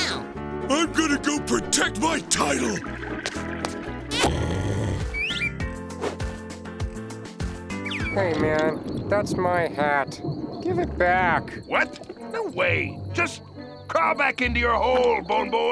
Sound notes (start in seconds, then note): 4.2 snoring